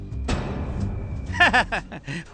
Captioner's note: laughing